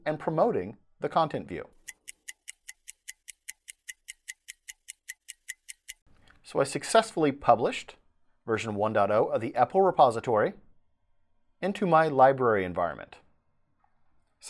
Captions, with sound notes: and promoting the Content View. (clock ticking) So I successfully published version 1.0 of the EPEL repository into my library environment.